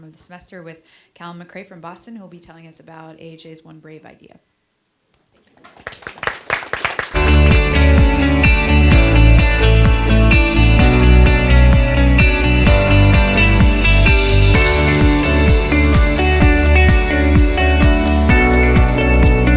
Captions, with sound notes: of the semester with Calum MaCrae from Boston who will be telling us about AJ's one brave idea. (audience claps) (upbeat electronic instrumental) (upbeat electronic instrumental)